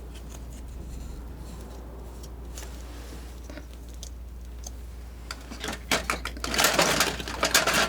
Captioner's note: scratching